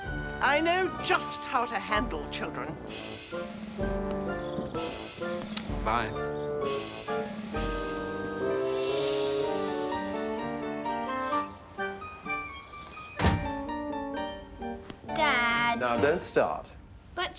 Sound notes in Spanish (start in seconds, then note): none